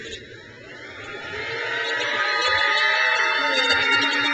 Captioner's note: crowd cheers